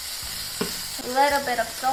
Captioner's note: sizzling